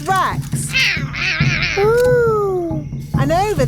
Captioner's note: roaring